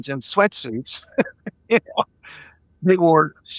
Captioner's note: laughing